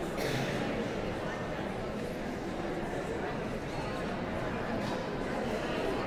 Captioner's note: audience chattering continues